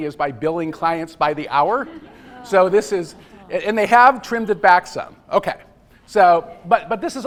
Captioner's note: laughter